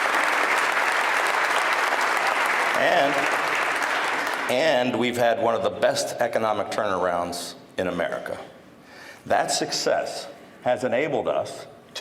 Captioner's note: applause